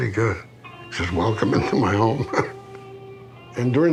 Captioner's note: chuckles